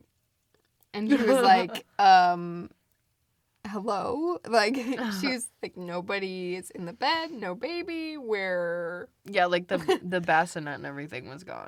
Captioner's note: laughs; laughs